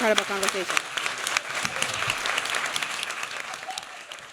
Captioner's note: applause